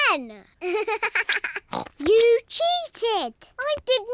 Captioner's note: laughs; snorts